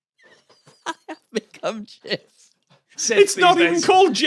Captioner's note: giggles